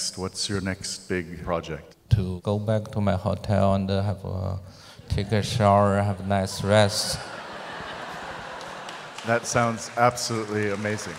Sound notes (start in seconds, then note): 7.4 audience laughs